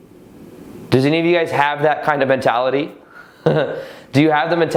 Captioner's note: laughs